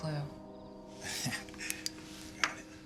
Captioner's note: owen chuckles